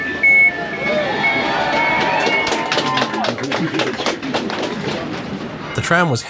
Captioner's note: door beeping; G class fans cheer and clap